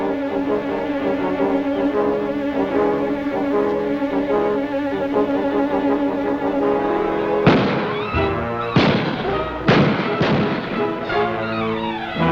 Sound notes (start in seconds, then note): 8.1 gunfire